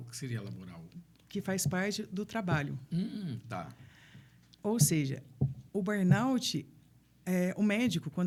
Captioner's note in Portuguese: limpando a garganta